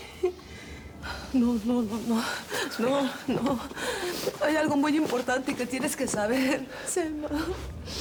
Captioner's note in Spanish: sollozos